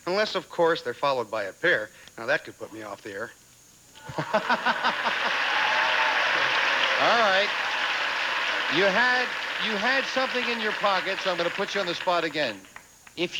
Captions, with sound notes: Unless, of course, they're followed by a pair Now, that could put me off the air" [audience applauding] Alright. You had, you had something in your pocket, so I'm gonna put you on the spot again.